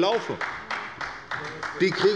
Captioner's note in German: Beifall des Abg